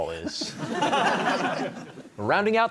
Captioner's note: laughter